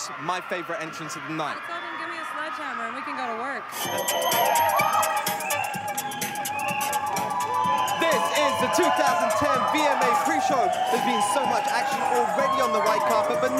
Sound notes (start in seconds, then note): 3.7 upbeat music; 4.0 crowd noises